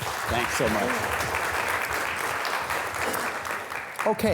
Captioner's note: students applauding